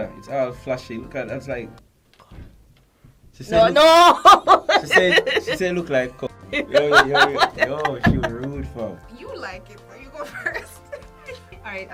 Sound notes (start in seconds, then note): 6.6 laughung